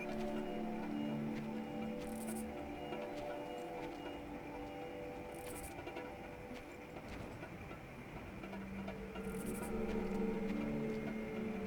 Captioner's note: birds chirping